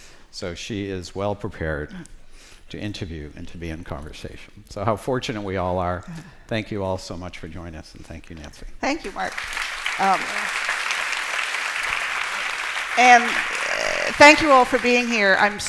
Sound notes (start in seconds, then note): 9.0 applause